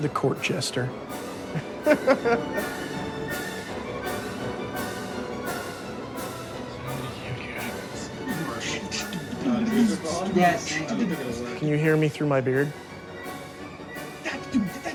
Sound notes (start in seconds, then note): 9.6 imitates drums